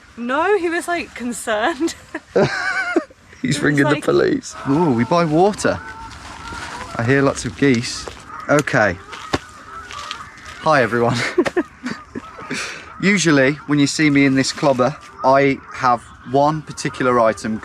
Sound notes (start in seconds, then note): 1.9 both laugh; 10.7 chuckles